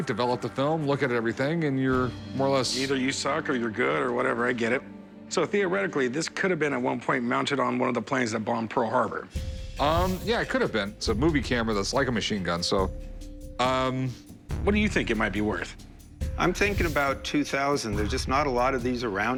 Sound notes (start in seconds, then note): none